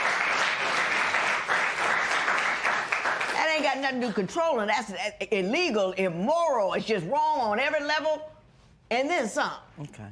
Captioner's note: applause